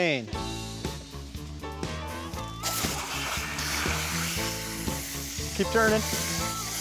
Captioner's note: water spraying